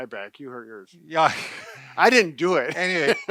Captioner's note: laughs